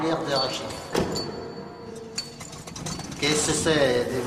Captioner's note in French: Claquement de portière, moteur